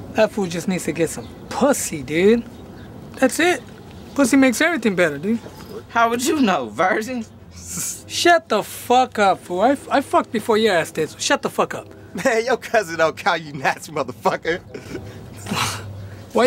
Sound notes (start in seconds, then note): 5.4 laughs; 7.8 Kevin laughs; 14.1 laughs